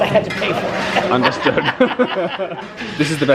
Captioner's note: laughing